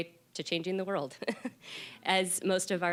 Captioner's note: chuckling